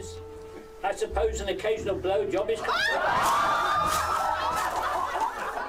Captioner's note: laughter